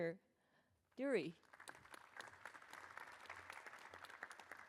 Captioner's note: applause